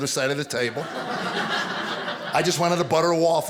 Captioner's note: audience laughing